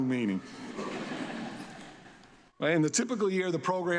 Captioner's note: audience laughs